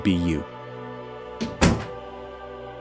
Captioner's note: door closes, music fades out